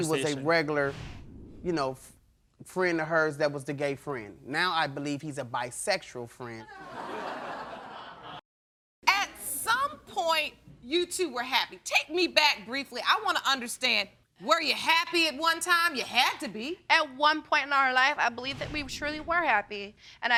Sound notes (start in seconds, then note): 6.7 audience laughs